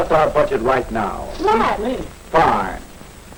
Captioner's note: sounds of agreement